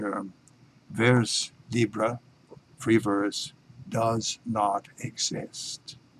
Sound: speaking in foreign language

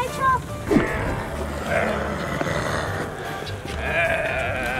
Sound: groans

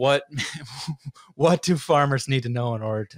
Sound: chuckles

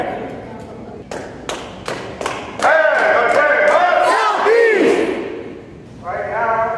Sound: clapping

